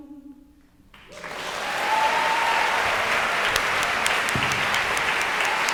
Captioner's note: audience cheering and applauding